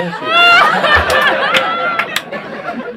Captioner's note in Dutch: gelach